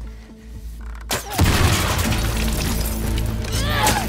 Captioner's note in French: boom